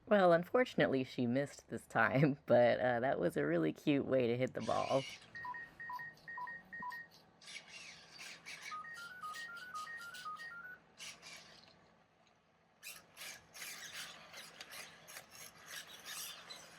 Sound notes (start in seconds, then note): 1.9 chuckles; 4.8 ERS-111 beeping happily in background; 12.8 gear noises